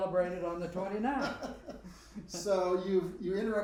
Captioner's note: both laughing